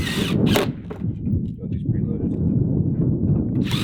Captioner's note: drilling